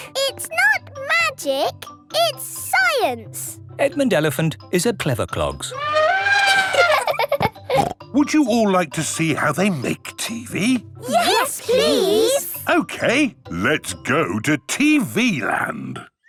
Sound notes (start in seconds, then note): 5.7 trumpeting; 5.8 laughing